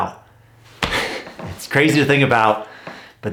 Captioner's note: chuckling